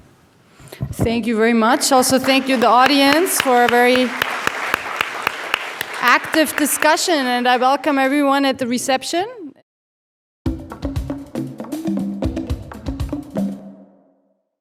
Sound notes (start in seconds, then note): 6.7 audience applause; 10.5 playful drum music